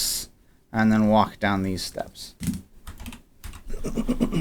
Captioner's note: clears throat